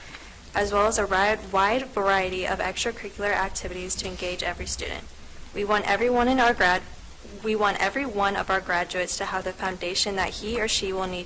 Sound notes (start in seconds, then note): none